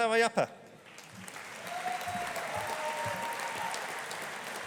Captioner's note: audience applauding